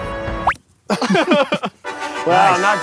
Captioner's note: laughing